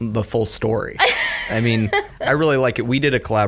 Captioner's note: laughs